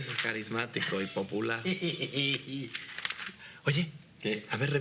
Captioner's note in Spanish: risas